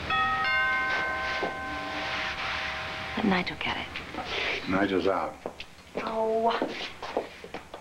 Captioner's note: doorbell rings